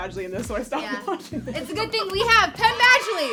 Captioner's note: laughs